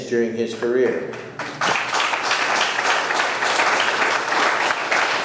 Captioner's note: audience clapping